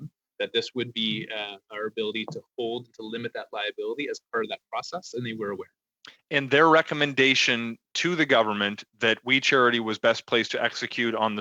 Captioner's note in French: voix de l'interprète